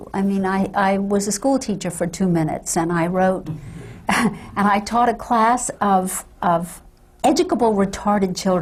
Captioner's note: laughs